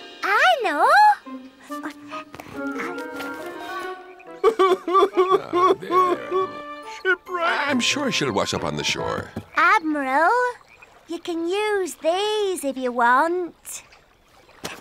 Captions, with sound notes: I know! - (sobs) Shipwreck... - There, there. I'm sure she'll wash up on the shore. Admiral, you can use these, if you want.